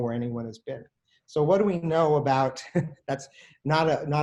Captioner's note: laughs